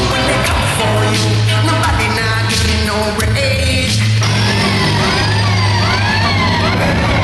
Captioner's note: sirens